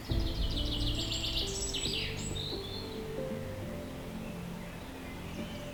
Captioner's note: birds chirping